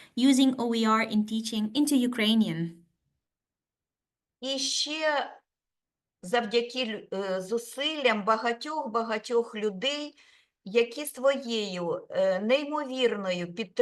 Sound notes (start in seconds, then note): 4.5 speaking Ukrainian